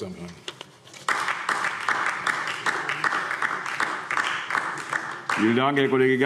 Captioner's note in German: Beifall DIE LINKE